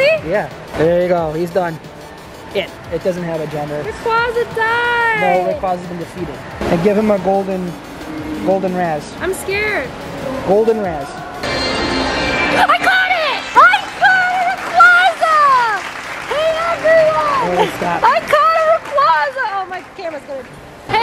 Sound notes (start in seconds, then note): 12.6 digital tones; 15.8 cheering